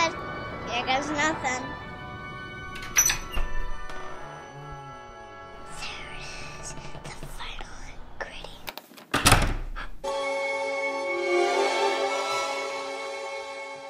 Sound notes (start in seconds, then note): 2.8 lock unlatches; 9.1 door slams; 9.7 gasp!